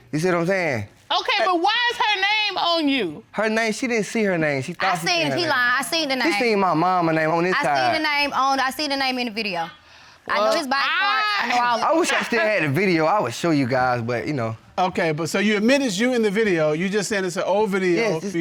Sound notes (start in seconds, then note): 11.7 chuckles